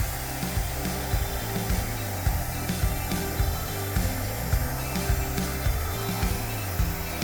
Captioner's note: blow dryer blowing; light upbeat music